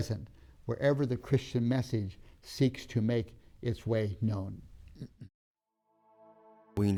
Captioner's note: clears throat; gentle music